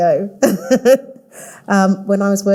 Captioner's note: laughing